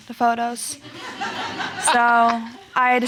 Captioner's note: audience laughing